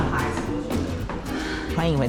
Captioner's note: sighing